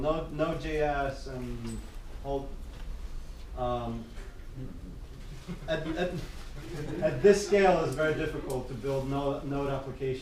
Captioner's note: people giggle